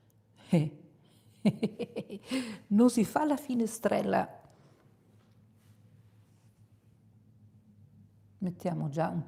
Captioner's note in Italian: risate